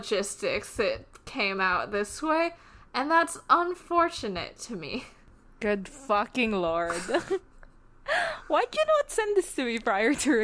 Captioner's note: laughs